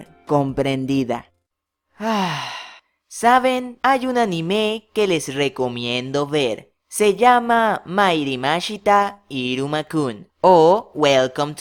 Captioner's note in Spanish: Suspiro